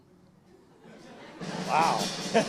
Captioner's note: chuckles; audience chuckles